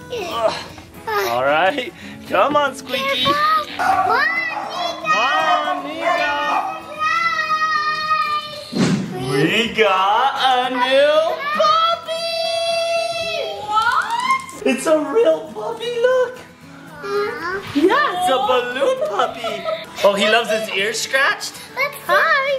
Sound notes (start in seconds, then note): 0.3 straining sound; 3.8 dog barks; 19.7 laughs